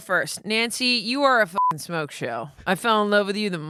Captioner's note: beep